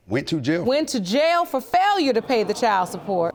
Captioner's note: audience exclaiming